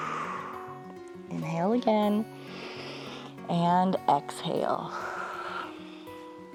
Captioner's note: exhales; exhales; inhales